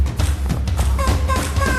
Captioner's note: vocalizing